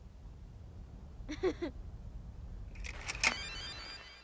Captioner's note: giggles; electronic music